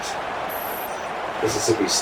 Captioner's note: crowd Noises